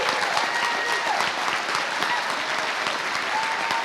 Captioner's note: applause